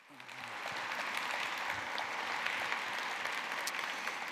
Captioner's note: applause